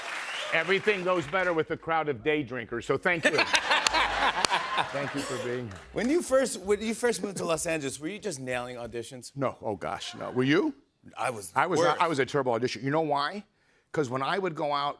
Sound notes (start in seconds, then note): 3.2 laughter